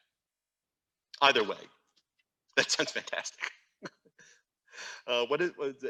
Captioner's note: laughs